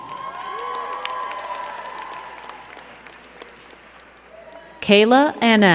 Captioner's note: crowd cheering and clapping